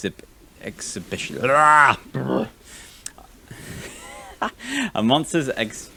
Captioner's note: general disgruntled noises